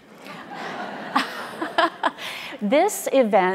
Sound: audience laughing

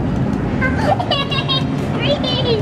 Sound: giggles

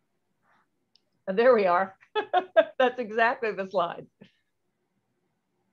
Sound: laughter

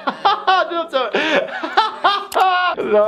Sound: laughing

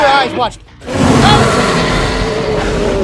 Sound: T-Rex Growls

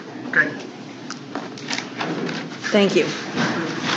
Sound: people moving around in courtroom

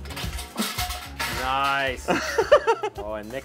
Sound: laughing

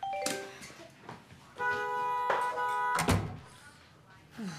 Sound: horn

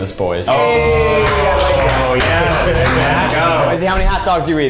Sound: they cheer

